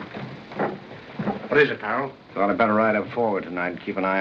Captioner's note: none